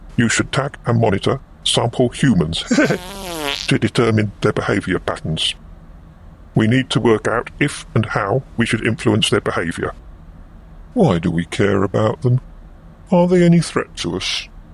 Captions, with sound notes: You should tag & monitor sample "humans" [laughs] to determine their behaviour patterns... [passing wind] we need to work out if and how we should influence their behaviour. Why do we care about them? Are they any threat to us?